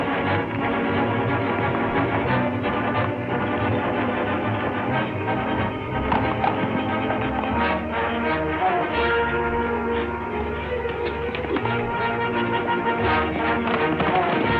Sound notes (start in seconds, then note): 0.1 dramatic orchestral music; 5.8 horses galloping; 10.1 suspenseful music